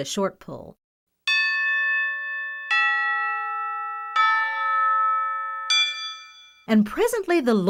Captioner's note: bell rings four times